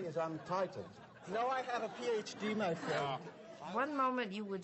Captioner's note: audience laughter